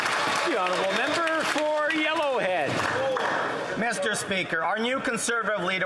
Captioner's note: some Applause